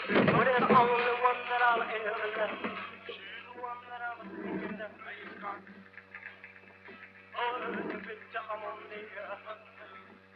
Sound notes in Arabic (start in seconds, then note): 4.1 صوت التجديف; 7.4 أغنية على الراديو - روكابيلي